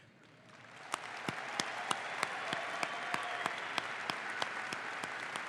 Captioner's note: audience applauds